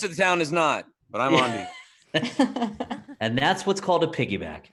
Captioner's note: laughing